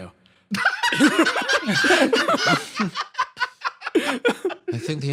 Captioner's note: laughs